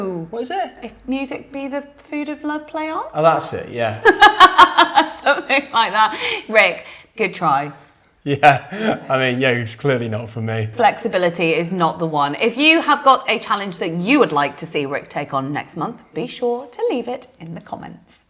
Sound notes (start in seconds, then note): 4.1 laughs